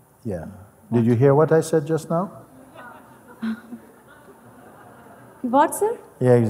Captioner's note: Lachen